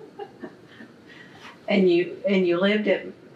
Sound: laughs

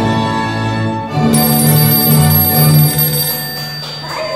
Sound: phone rings

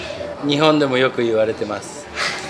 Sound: Speaking Japanese

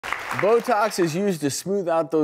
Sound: applauding

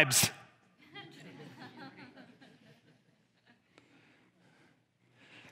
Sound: congregation laughs

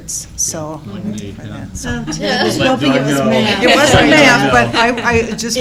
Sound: laughter

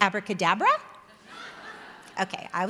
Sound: audience laughing

